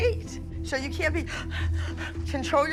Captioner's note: panting